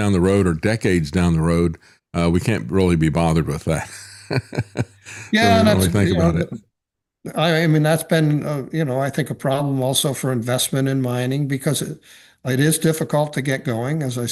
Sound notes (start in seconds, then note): 3.7 laughs